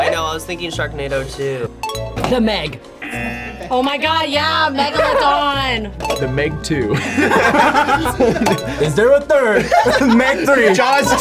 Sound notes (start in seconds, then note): 3.0 klaxon sounds; 3.0 bell dings; 6.3 bell dings; 6.9 men laugh; 7.2 klaxon sounds